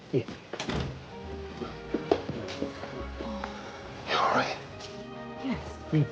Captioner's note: door closes